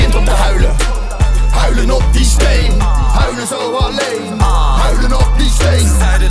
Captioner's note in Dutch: aah